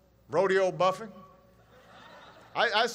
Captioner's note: laughter